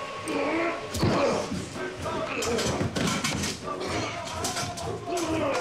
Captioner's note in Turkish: Boğuşma sesleri